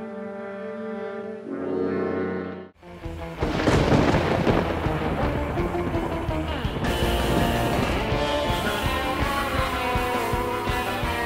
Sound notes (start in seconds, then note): 3.1 thunder rolling; 5.7 lively rock music